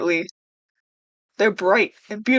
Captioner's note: silent awe